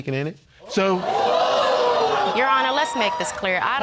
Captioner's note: audience gasping